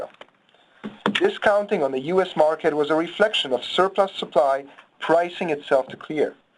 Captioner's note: loud thud